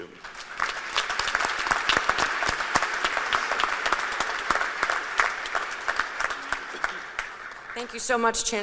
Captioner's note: applause